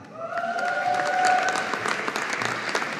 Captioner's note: audience applauding